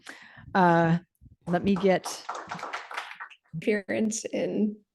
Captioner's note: audience applauding